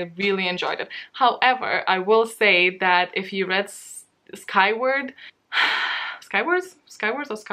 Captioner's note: sigh